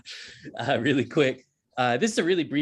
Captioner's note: chuckling